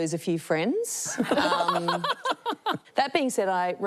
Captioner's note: laughs